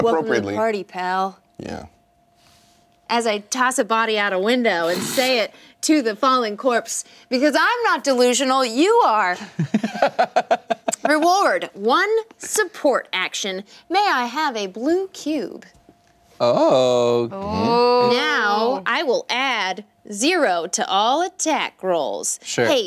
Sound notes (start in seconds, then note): 9.4 laughing